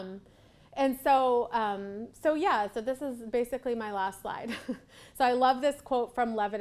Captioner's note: laughs